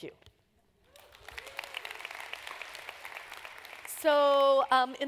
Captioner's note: applause